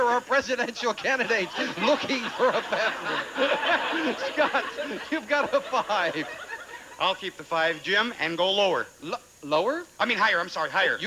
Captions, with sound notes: there are presidential candidates looking for a bathroom? [audience laughing] Scott, you've got a 5. I'll keep the 5, Jim, and go lower. Lower? I mean, higher. I'm sorry.